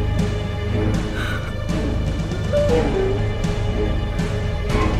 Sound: whimpering

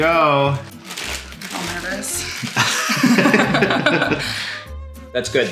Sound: laughing

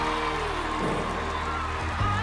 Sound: cheers and applause

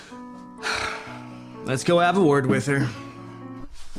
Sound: sighs

